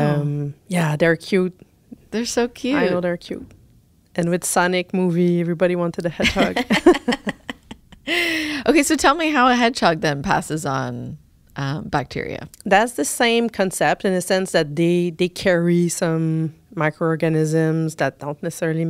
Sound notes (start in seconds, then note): 8.6 laughter